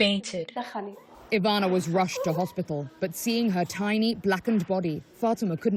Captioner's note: voice-over